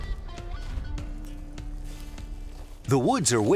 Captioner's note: brush rustling